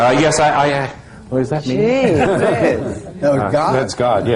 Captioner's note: his voice echoes